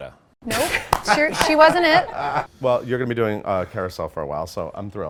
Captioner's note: laughs